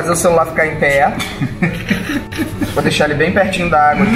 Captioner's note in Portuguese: risadas